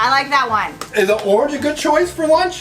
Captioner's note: claps hands softly